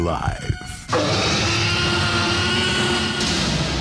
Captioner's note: T-Rex Roar